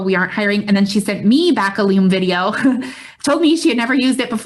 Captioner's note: chuckles